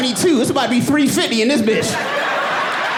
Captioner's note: audience cheering and applauding